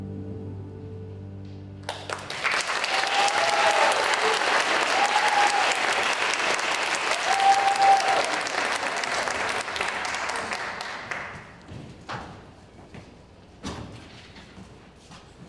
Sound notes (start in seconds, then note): 1.8 applause